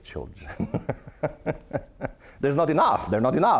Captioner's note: laughing